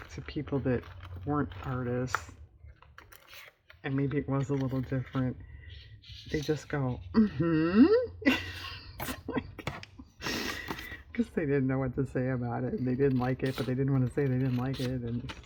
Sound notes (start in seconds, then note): 7.0 laughs